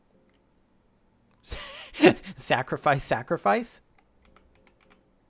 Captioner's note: laughs